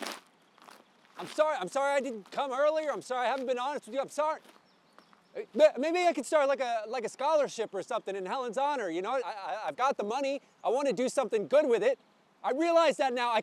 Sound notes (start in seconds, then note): none